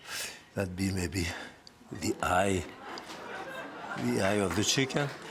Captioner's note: audience laughs